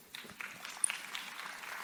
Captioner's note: audience applause